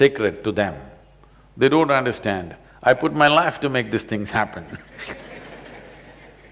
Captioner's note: laughter